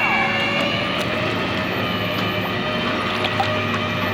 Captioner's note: hoist whirring; workers cheering; water sploshing